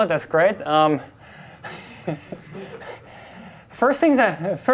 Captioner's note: class and instructor laugh